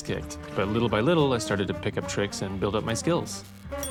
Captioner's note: electricity crackles